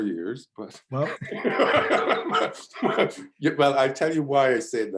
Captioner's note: laughs